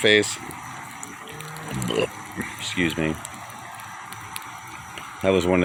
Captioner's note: burp